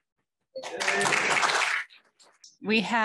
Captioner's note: applause